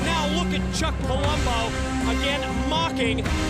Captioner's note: none